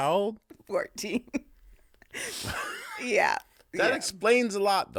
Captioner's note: laughing